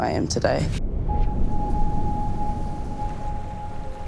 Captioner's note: wind whooshes; eerie music